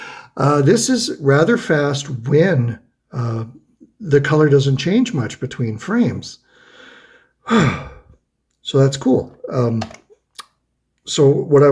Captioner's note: huffs